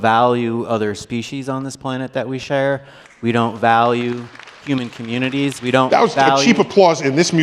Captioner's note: applause